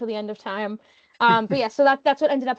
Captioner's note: chuckling